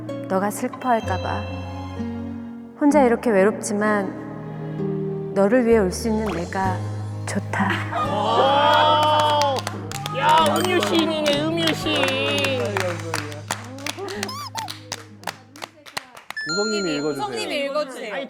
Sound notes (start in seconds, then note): 12.8 applause; 14.0 choking up